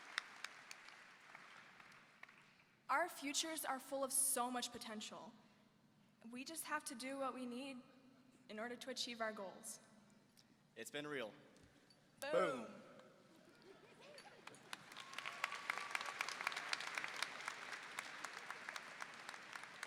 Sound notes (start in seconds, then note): 13.4 audience laughing; 14.2 audience applauding